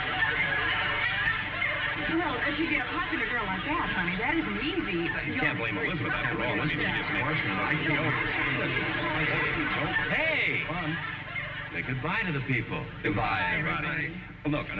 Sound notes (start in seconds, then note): 2.1 audience laughing; 9.7 arguing; 10.4 audience laughing